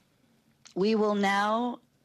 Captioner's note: speaking French